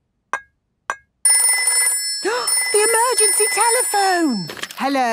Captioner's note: phone ringing, gasp